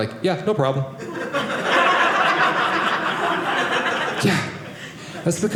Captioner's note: audience laughing